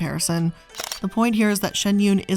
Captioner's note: camera shutter clicking